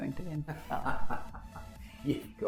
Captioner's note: laughing